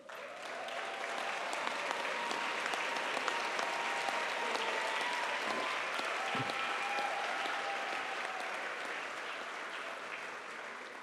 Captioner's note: applause